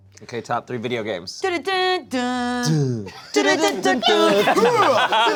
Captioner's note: humming song; laughing